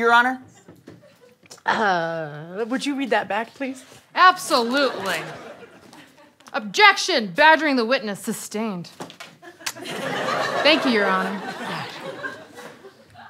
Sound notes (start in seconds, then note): 9.4 kiss